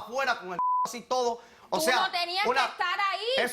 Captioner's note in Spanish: Bip